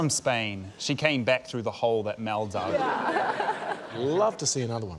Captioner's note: laughs